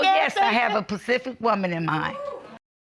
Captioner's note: audience hooting